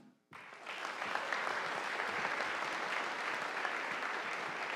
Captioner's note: audience applauding